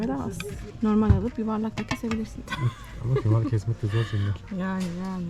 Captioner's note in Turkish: kahkaha